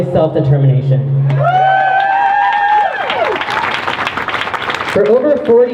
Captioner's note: crowd cheers